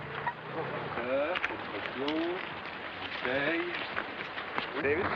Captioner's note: man speaking french